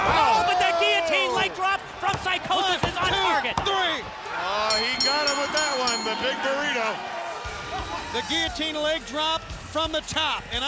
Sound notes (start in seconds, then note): 1.8 hands thudding; 4.5 bell ringing; 4.7 crowd clamoring; 7.3 lively music